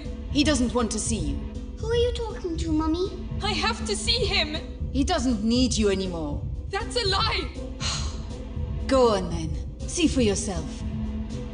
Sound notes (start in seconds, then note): 7.8 sighs